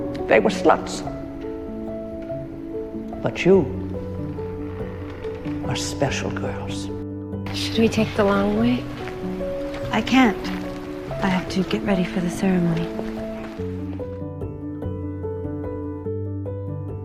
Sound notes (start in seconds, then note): 7.8 voiceover